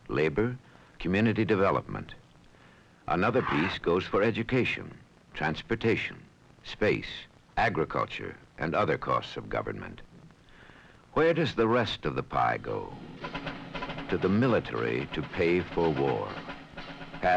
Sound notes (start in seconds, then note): 3.2 pie server scraping; 12.6 military music